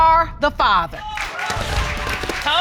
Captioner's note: audience clapping and cheering